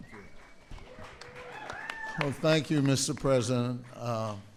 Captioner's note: applause